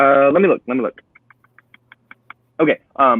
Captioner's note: phone clicking